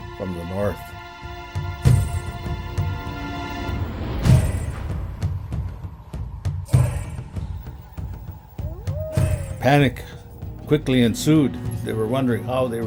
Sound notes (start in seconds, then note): 2.8 chanting; 2.8 intense music